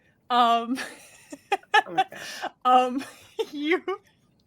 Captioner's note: laughing